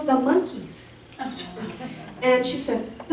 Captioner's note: audience laughs